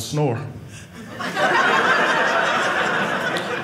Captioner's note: audience laughing